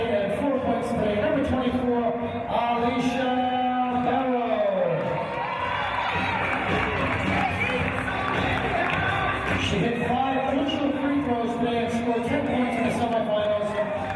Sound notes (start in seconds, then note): 4.7 cheers